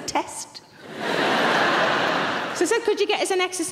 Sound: audience laughing

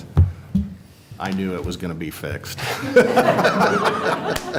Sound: laughter

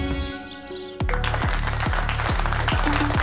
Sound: crowd clapping

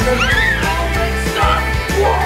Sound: child screaming

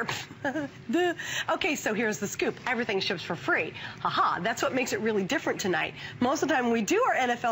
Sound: laughter

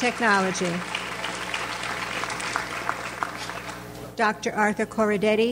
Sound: audience applauds

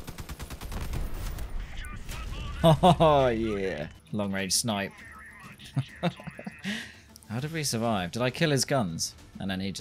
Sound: laughs

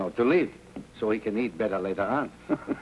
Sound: chuckles

